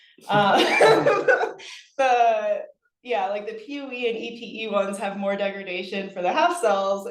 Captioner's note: laughs